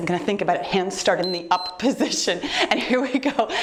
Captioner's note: timer beeps